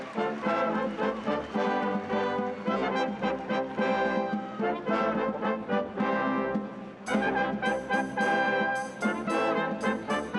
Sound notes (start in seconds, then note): 3.9 applause